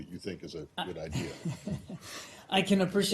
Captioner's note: laughter